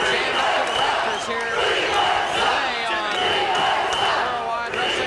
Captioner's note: audience continues chanting